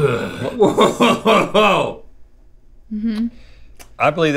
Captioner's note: Rhett laughs